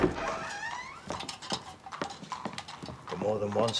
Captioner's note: door creaking open